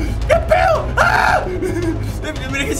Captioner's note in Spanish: Grita